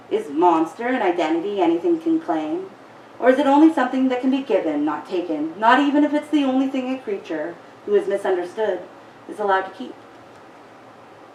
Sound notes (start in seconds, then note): none